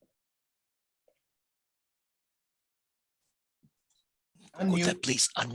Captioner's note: muted